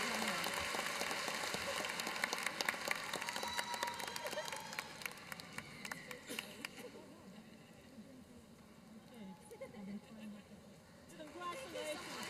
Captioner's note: applause